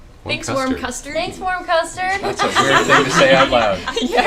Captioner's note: laughter